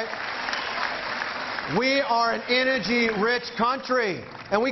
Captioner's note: cheering